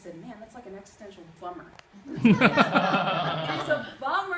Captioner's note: laughter